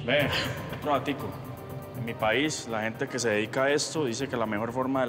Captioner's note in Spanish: ella carraspea